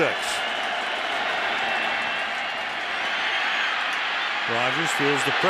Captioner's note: cheering